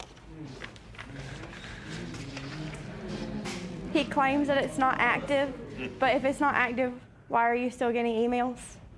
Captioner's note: spectators murmur